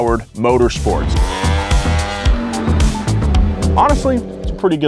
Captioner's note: engines revving